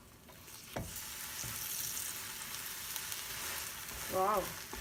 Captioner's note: skillet sizzles